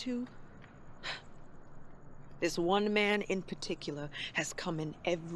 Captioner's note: scoffs